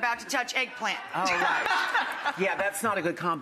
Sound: audience and guests laughing

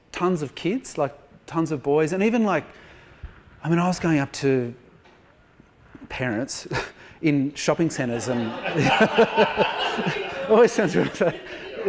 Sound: laughter

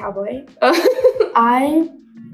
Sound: laughs

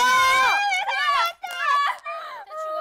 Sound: sobbing

